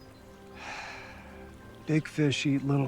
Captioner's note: Kent sighing